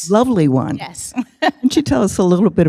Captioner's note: laughs